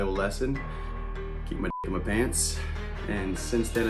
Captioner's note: beep